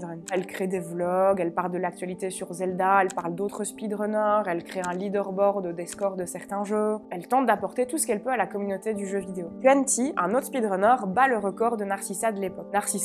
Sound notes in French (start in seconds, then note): none